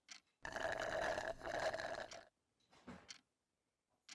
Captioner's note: slurping